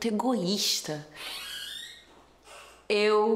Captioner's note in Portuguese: som de porta abrindo